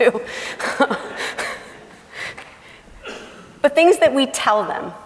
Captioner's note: laughing